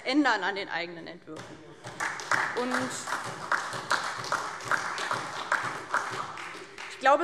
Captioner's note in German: Beifall DIE LINKE und SPD